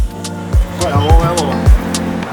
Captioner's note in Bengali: বিদেশী ভাষা